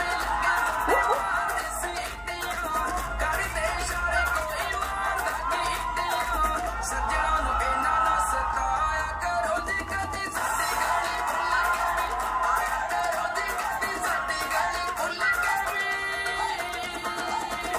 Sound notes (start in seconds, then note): 1.2 applause